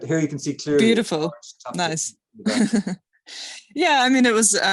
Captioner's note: chuckling